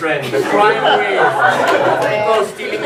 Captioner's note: audience laughs